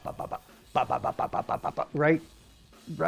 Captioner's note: mimics drums beating